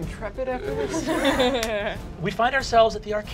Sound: laughs

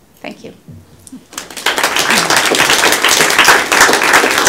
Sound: applause

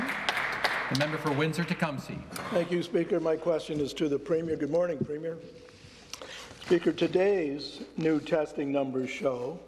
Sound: some Applause

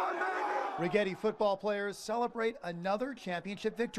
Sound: players celebrating

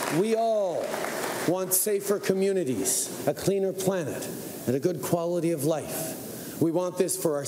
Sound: cheering and Applause

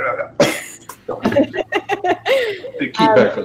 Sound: laugh

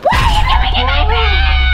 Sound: screaming

